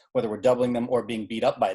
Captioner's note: laughing